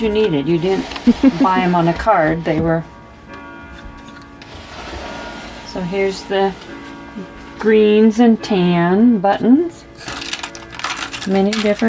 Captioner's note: chuckles; clock chiming